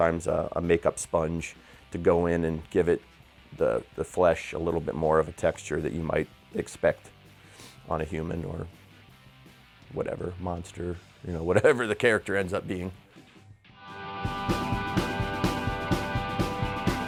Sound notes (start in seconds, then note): 11.0 laughs; 13.6 rock music